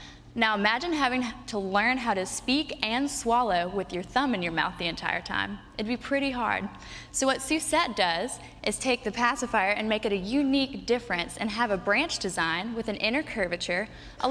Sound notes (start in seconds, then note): none